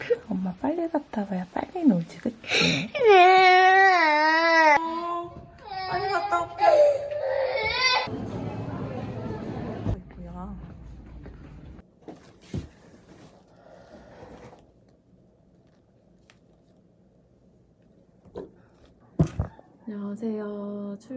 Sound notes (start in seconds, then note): 5.7 cries